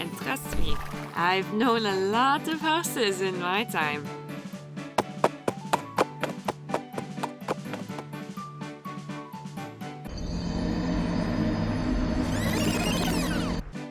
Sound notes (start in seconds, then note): 10.2 Dark Souls death sound; 12.2 Dark Souls death sound reversed + the record scratch from Renai Circulation